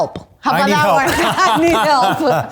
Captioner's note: laughs